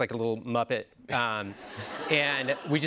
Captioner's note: laughter